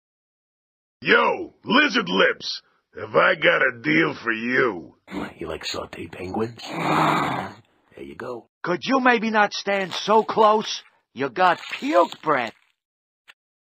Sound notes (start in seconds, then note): 6.0 the Snake moans